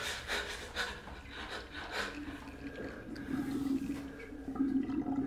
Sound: water draining

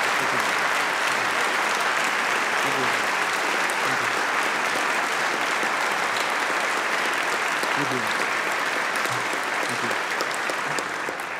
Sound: applause

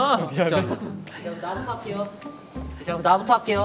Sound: blowing

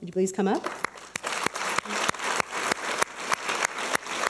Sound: applause

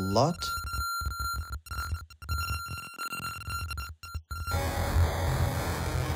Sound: beeping

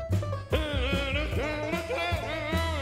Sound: banjo music playing; humming to music

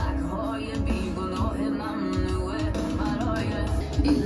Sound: giggles

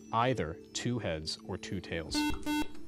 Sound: buzzer

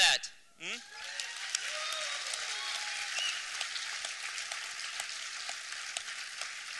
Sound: applause

